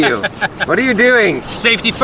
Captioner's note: laughing